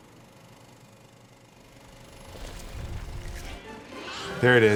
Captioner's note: projector whirring